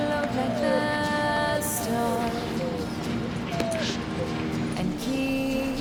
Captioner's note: dog whining